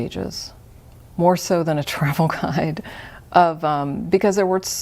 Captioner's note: chuckles